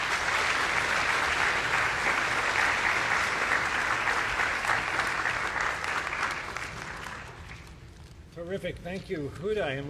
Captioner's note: applause